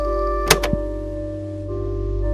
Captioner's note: click